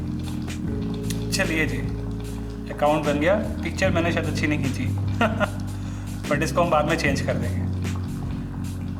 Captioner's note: chuckles